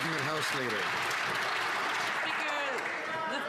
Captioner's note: some Applause